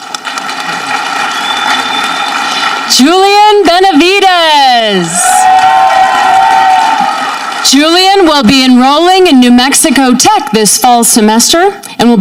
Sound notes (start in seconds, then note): 0.0 audience clapping; 4.8 audience cheering